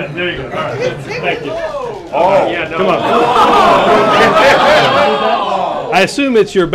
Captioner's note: laughter